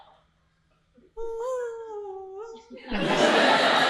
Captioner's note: humming; audience laughing